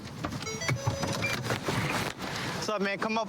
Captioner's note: car notification bell dings